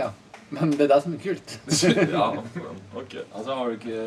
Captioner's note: laughs